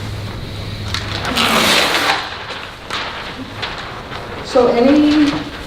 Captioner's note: paper tearing